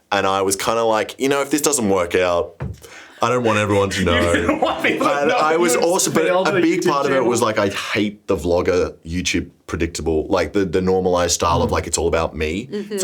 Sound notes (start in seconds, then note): 6.0 laughs